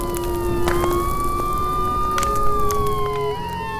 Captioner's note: police sirens blaring; fire raging; gentle music